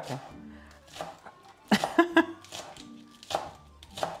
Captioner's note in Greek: γέλια